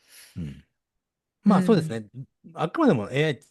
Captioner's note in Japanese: 咳払い